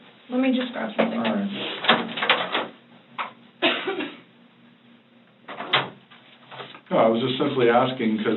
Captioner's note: door clicks open and shut